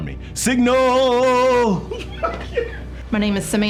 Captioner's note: laughs